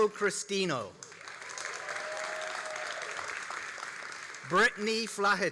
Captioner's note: all applauding and cheering